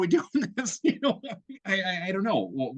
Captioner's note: laughing